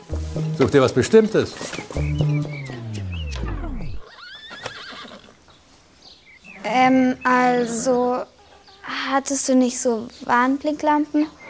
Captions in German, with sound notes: Sucht ihr was Bestimmtes? (Musik stoppt, Pferd wiehert.) Ähm, also ... Hattest du nicht so Warnblinklampen?